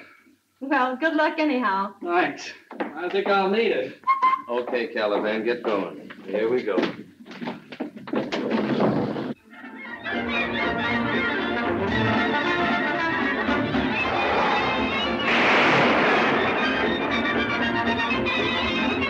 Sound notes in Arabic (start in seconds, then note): 4.0 يصفر; 9.9 موسيقى مبهجة; 13.3 انزلاق السيارة